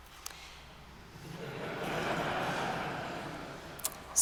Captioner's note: laughter